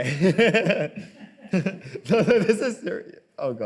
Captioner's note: laughs